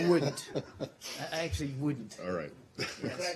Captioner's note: laughter